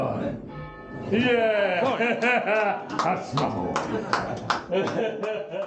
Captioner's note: laughter and clapping